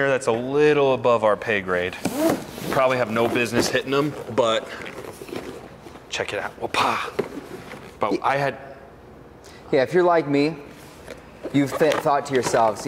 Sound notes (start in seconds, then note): 6.7 mimics thudding